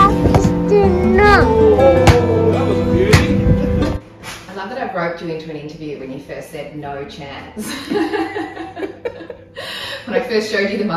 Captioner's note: laughs